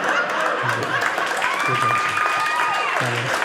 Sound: audience applauding

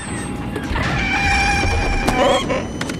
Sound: Porg yell

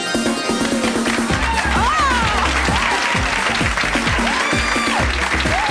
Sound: engaging music; audience applauds and cheers

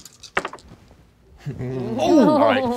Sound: dice rolling

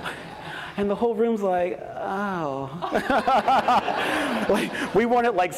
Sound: laughs

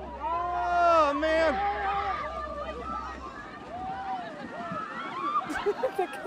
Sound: cheering

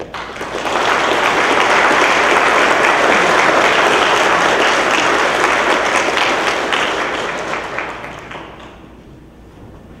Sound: clapping

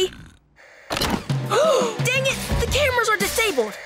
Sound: gasping

